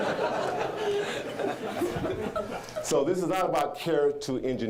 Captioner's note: audience laughing